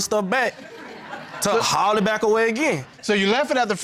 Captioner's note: audience laughing